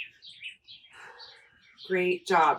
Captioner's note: inhaling; exhaling